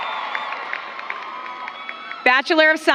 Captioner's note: applause